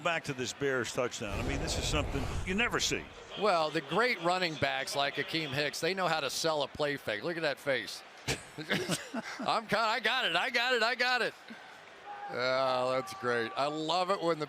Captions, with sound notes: Let's go back to this Bears touchdown. This is something you never see. Well, the great running backs like Akiem Hicks, they know how to sell a play fake. Look at that face. [laughter] I got it. I got it. I got it. Oh, that's great.